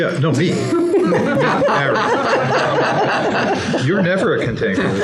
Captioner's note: laughter